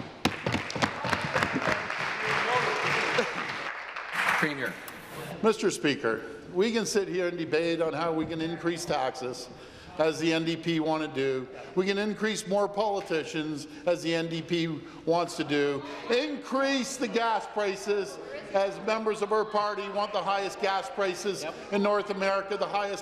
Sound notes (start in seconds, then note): 3.3 applause